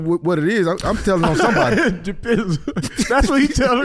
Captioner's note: laughing